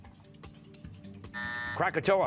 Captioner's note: buzzer